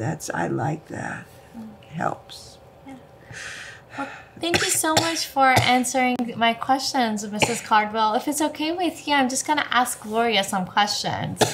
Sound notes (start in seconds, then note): 4.5 cough; 11.3 cough